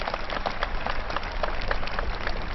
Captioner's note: applause